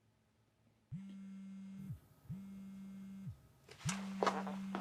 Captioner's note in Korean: 폰 진동소리